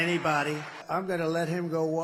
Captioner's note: cheering